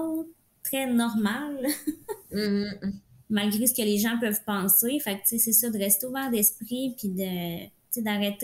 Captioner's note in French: rires